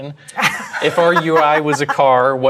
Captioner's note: laugh